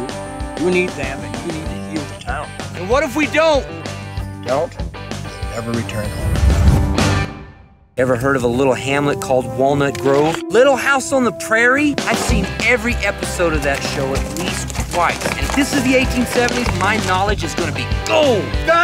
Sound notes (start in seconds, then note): 14.8 horses galloping